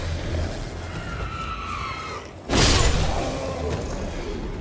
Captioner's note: enemies shrieking; zombies growling